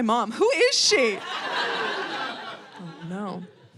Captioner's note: audience laughing